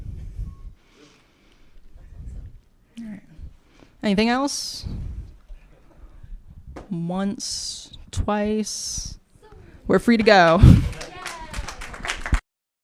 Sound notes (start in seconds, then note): 10.2 applause